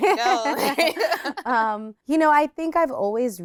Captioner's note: both laughing